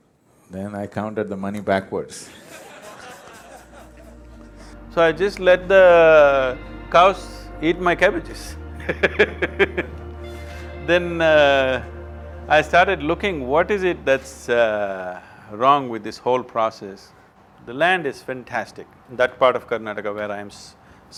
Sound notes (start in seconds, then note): 2.2 laughter; 9.6 laughs